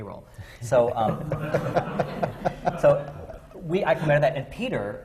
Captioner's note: laughter